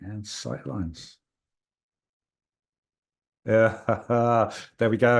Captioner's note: laughs